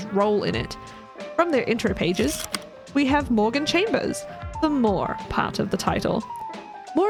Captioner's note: projector slide click